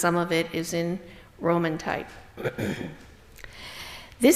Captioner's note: clears throat